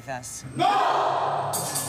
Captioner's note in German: Gruppenschrei; Treibende Musik